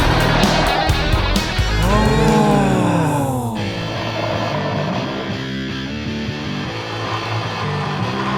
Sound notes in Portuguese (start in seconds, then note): 1.6 pessoas admiradas em coro; 3.5 música agitada de fundo